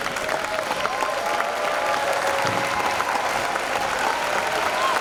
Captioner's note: cheers and applause